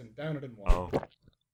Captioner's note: gulp